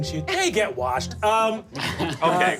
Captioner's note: group laughing